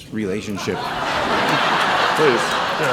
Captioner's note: laughing